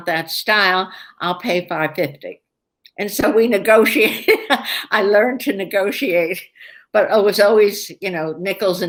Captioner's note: laughs